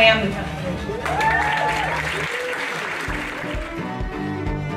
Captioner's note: applause